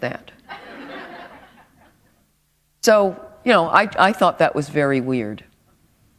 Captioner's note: laughter